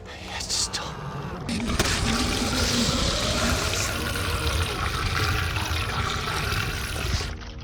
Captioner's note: alien roars